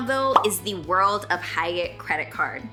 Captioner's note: bubble popping